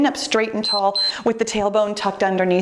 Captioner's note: timer beeps